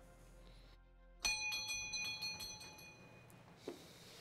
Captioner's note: doorbell rings